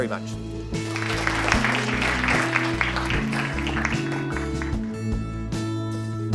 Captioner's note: audience applauses and credit music plays